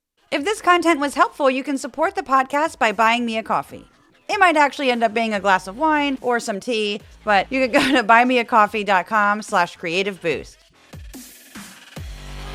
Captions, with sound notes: If this content was helpful, you can support the podcast by buying me a coffee. It might actually end up being a glass of wine or some tea, but you could go to [laugh] buymeacoffee.com/creativeboost.